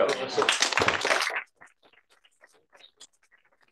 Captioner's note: applause